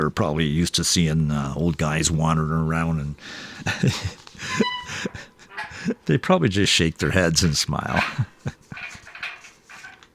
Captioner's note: laughter